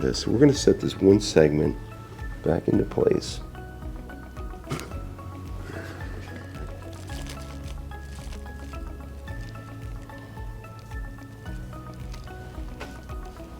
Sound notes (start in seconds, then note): 4.7 exhales sharply; 7.1 shirt rustling; 10.9 mellow music